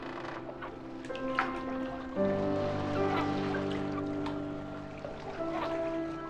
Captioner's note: dripping water